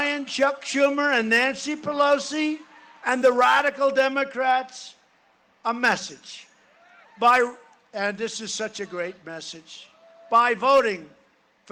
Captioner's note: cheering and applause